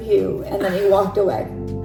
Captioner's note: laughs